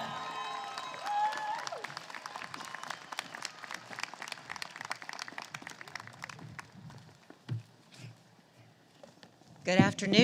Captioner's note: applause